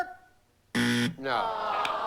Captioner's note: buzzer